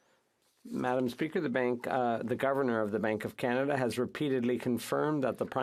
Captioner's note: speaking French